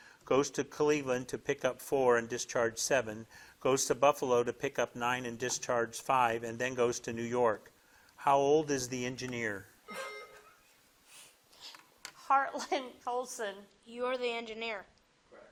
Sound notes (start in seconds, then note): 9.9 buzzer rings